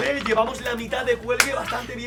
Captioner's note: claps in Spanish